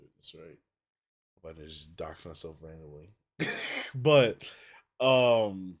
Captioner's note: laughs